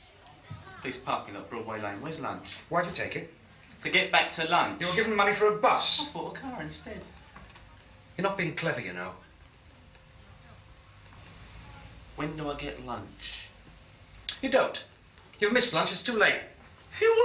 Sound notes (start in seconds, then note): none